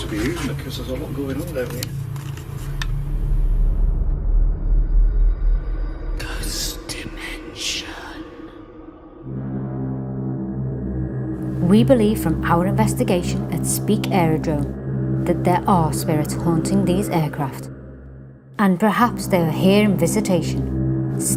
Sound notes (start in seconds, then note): 4.2 ominous music; 6.8 ghostly Voice; 9.7 dramatic music